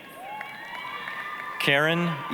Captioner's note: applause, cheering